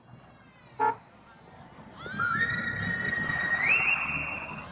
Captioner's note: horn honking; whistling